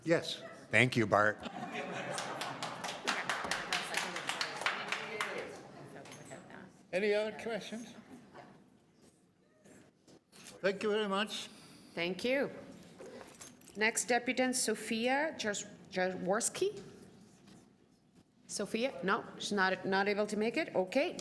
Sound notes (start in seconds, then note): 5.0 applause